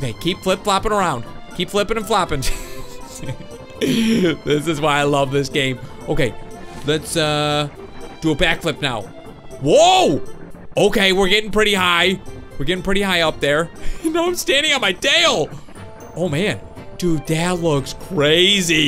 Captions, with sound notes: Okay, keep flip-flopping around. Keep flipping and flopping. (laughs) This is why I love this game. Okay, let's do a back flip now. Whoa! Okay, we're getting pretty high. We're getting pretty high up, there. Now I'm standing on my tail! Oh man, dude, that looks crazy.